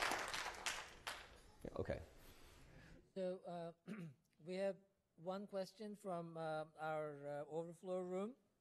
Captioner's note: applause